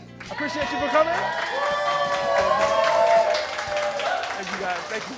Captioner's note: cheering